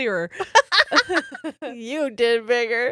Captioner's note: laughing loudly